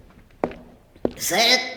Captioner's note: footsteps continue